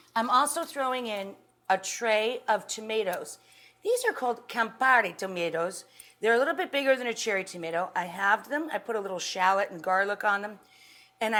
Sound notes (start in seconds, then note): none